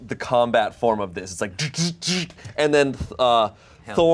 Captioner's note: imitates machine whir